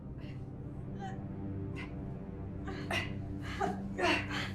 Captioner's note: grunting